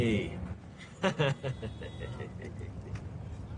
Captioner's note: laughs